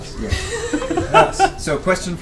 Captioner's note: all laugh